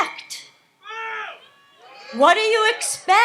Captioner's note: audience shouts